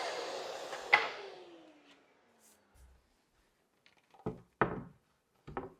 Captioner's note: wood clicking